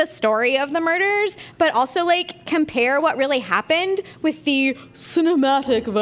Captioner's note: puts on mock-fancy voice